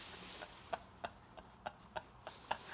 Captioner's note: laughing at the clothes ㅋㅋㅋ